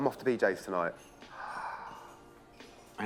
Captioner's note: excited gasp